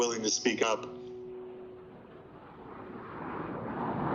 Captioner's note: rugido do motor de jato